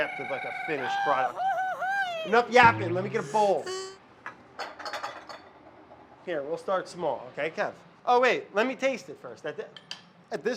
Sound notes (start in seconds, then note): 3.8 bowls clatter; 3.8 tomato cries